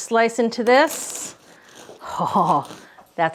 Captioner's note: bread crunching